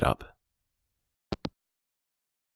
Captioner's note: hangup